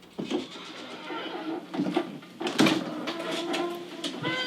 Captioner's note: door creaking